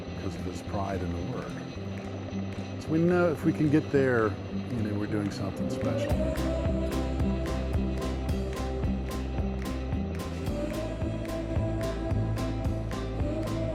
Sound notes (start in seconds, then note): 7.0 helicopter rotors whirring; 10.4 upbeat music